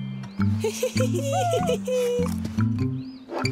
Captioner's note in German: Sie kichern; Gemächliche Musik